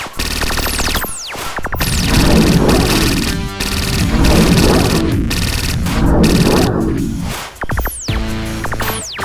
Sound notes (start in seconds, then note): 1.7 portal whirring